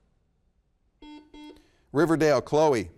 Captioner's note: buzzer beeps